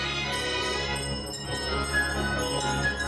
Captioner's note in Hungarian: száncsengők csilingelése